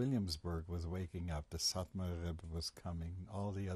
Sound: non-english

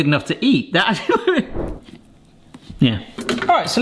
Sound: laughs

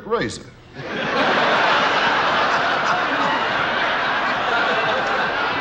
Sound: audience and host laughing

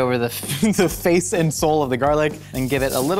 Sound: laughs

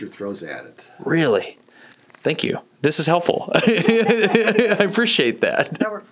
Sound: laughs

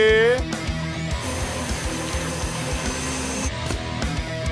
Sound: blender whirs

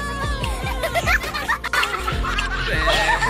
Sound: laughing

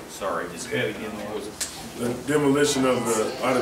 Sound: murmurs

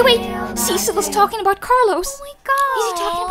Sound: chanting stops

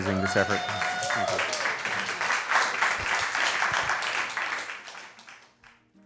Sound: applause

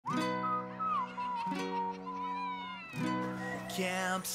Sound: whistling

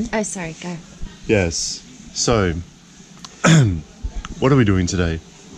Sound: clears throat

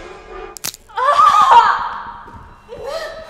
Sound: crunch and scream

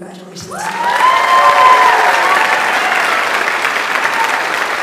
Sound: audience applauds

